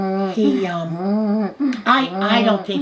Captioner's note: humming